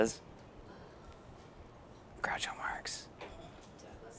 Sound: whispering

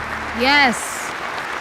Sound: endless applause

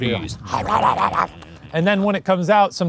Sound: mimicking quick eating

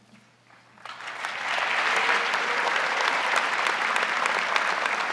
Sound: crowd applauding

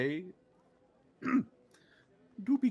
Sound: Ms. Feather clears her throat

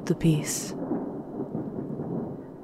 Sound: thunder rumbles closer than before, as the rainfall intensifies

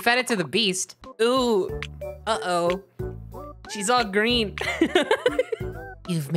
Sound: laughing

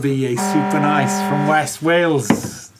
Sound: alarm sound

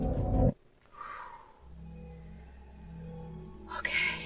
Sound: sigh of relief

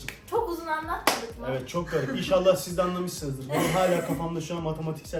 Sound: chuckles

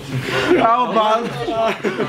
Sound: laugh

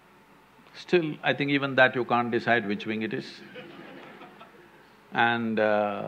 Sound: laughter

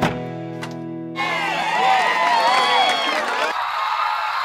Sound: cheering; cheering on video

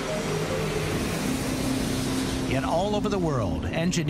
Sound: plane roars

